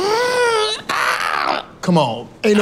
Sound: man groaning

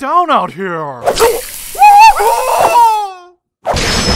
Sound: screaming

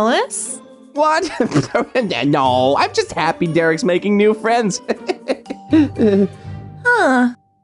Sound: chuckles nervously

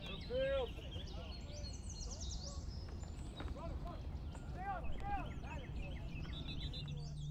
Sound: birds chirping, background chatter

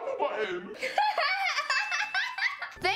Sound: laughing; ding

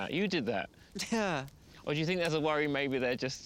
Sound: chuckling

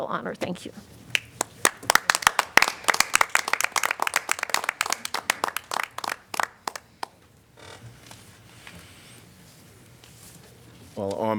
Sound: applause

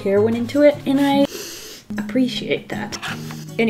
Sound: long sniff

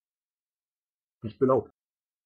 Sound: fast Pronunciation

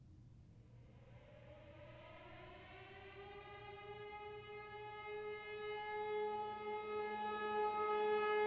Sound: siren

